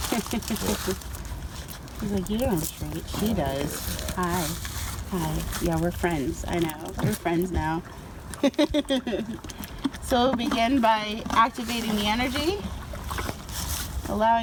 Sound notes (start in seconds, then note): 8.3 laughs